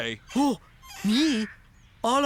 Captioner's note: gasps